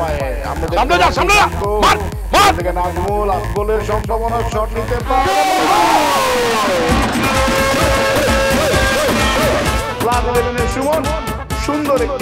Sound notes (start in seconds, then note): 6.9 cheering